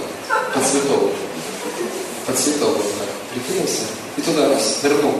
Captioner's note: смех